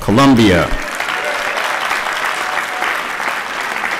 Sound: applause

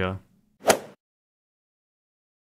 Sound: swoosh

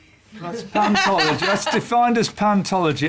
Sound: laughs

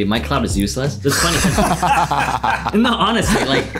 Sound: boys laughing

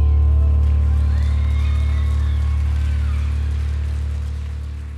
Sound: crowd applauding

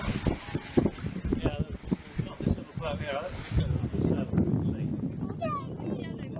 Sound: sails flapping

